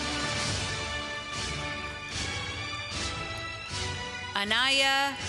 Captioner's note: applause